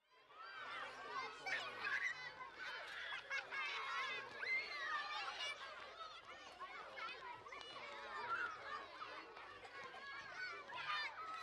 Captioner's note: sounds of children playing on the playground